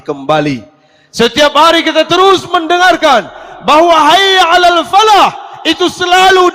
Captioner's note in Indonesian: berteriak